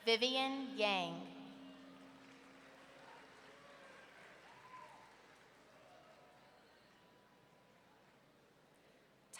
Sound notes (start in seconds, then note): 1.3 audience clapping